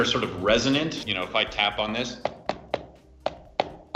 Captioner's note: tapping